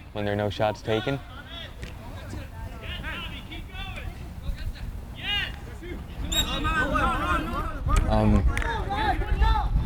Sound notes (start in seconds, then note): 6.3 whistle tweeting; 6.9 players shouting